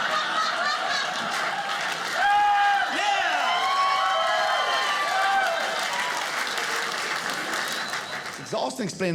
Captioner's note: audience laughing; audience cheering